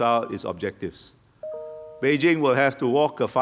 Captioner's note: gadget chimes